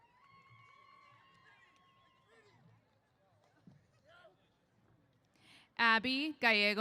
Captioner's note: cheers